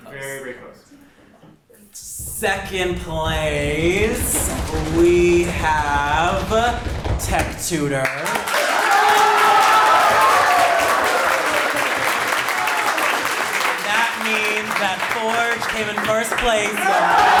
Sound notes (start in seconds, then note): 8.7 audience applauds